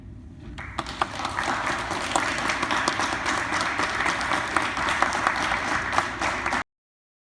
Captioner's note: applause